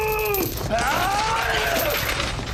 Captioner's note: Eldon screams throughout